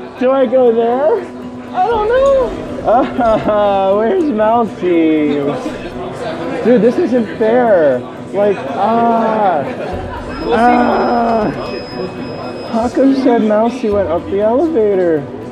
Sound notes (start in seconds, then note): 3.1 whimpering